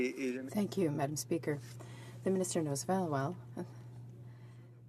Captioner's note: speaking French